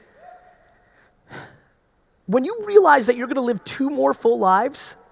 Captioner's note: sighs